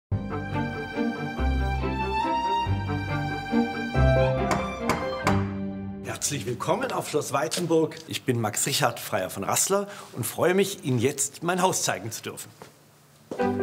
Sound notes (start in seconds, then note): 2.6 atmospheric music; 4.4 knocking